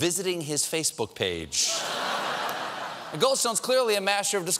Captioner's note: laughter